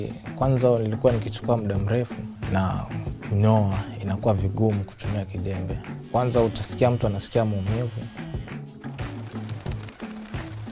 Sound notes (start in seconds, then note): 7.3 birds flying